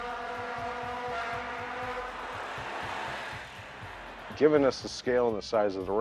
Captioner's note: sound of welding